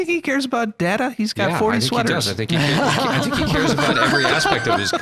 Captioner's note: all laughing